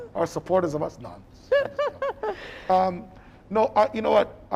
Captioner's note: laughing